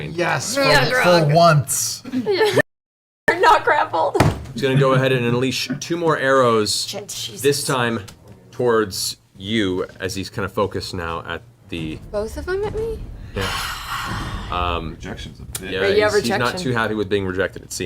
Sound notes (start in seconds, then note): 3.2 laughing